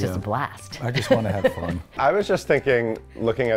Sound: laughs

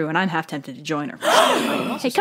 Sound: gasp

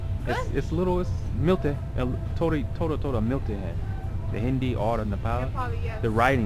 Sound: hindi

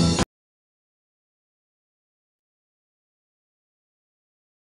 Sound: silence continues

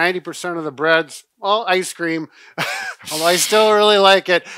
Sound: laughs

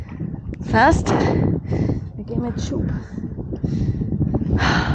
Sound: wind

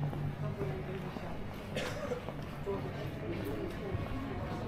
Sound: people chattering

